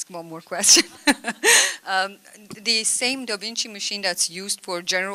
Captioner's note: laughter